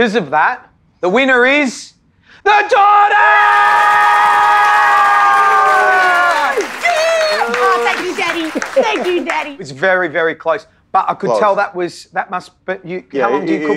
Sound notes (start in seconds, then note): 3.0 crowd cheering